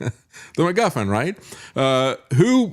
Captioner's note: laughs